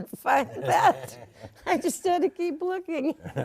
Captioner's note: laughs